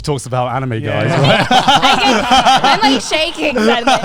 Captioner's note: all laughing